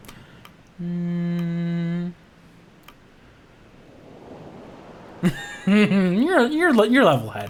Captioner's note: sighs; laughs